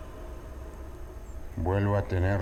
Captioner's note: ominous sound